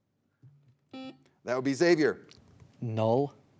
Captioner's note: buzzer beeps